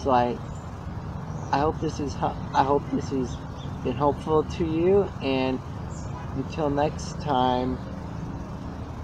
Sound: car horn honks in background

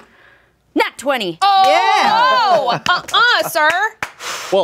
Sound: all shouting

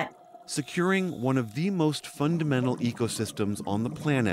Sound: voice-over

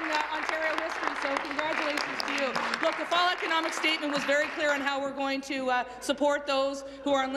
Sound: applause

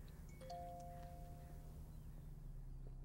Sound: computer chimes; gentle pensive music

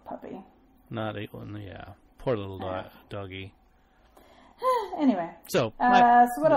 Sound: sighs

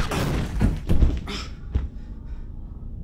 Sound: grunts

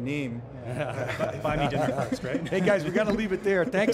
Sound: all laughing

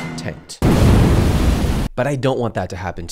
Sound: fire exploding

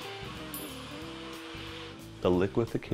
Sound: blender whirs; bell dings

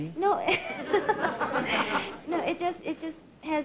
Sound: laughs

